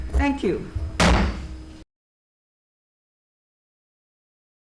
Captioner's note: gavel pounds